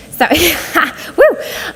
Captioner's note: laughs